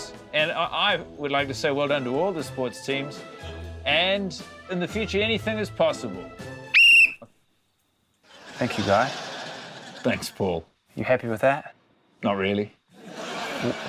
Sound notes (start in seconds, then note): 6.6 blows whistle; 12.9 laughter